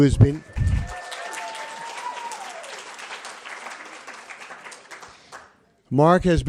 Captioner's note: applause, cheering